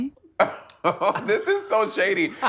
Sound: laughing

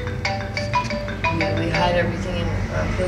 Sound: phone ringing

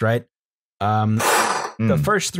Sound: breathes in sharply

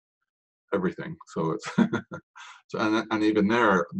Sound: laughs

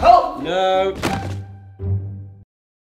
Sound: thud

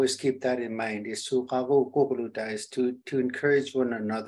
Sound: speaking foreign language

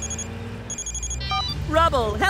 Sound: phone ringing

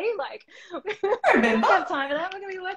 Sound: laughter

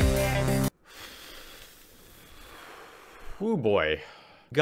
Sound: long exhale

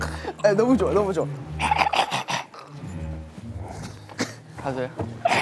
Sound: sounding more confident

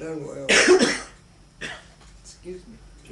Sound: coughing

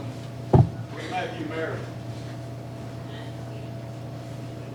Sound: faintly speaking

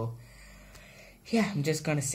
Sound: exhales

